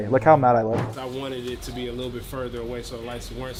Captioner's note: none